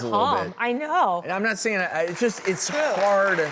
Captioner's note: audience applaud